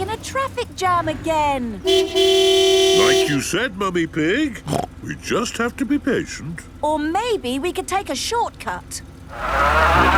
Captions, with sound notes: We're stuck in a traffic jam again! (honking) - Like you said, Mummy Pig... (snorts) We just have to be patient. - Or maybe we can take a short cut?